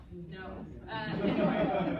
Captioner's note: laughter